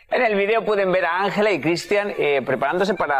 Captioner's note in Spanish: risas